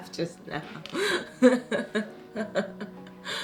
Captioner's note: laughs